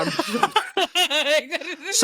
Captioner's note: laughing